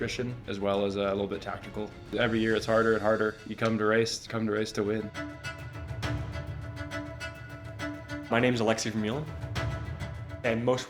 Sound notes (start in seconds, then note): none